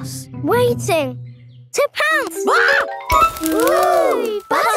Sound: screams

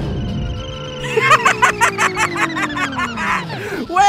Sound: laughter

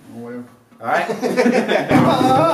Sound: laughter

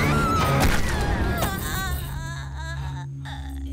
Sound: woman screaming; stone thud

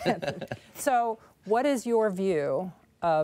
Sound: laughter

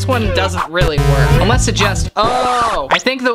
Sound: buzzing

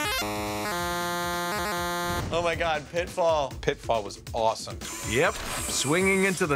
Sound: buzzing sound

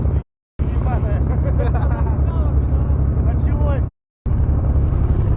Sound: laughter

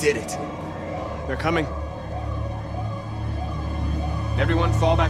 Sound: sirens approaching

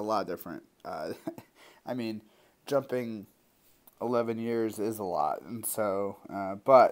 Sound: laugh

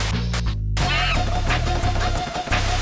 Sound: Screech

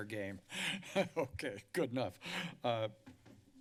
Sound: laughs

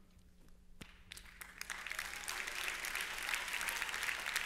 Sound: applause

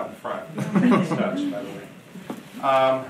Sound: audience laughing

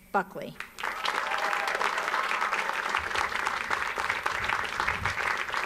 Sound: audience applauds

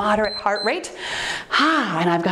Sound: timer beeps

